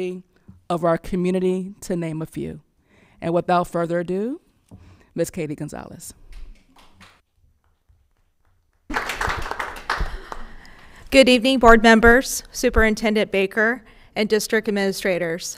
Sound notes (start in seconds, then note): 8.8 audience applauding